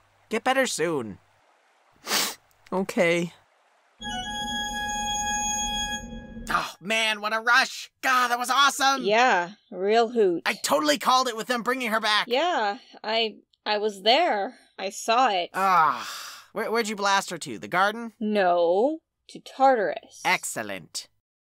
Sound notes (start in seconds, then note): 2.0 twilight sniffs; 4.0 old pipe organ jingle